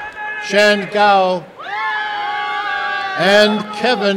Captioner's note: applause and cheering; applause and cheering